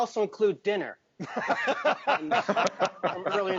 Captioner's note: all laughing